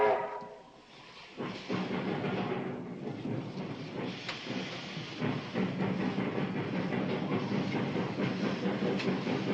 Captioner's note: train whistling; train rattling